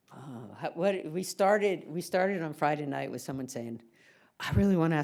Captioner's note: sighs